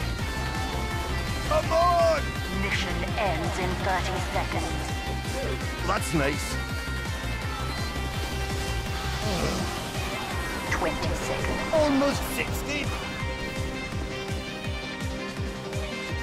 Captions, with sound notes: "Come On!" "Mission ends in 30 seconds!" 58 "That's Nice." *Groan* "20 Seconds." 59... "Almost 60!"